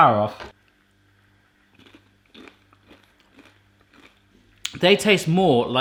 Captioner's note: corn flakes crunching